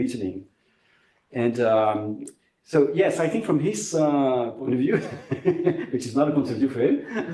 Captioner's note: laughs